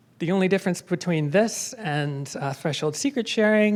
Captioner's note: none